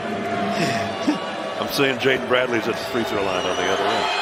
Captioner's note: laughing